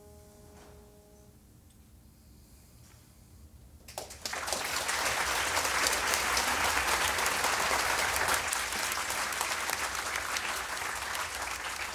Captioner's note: applause